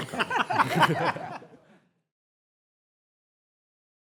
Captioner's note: panelists laugh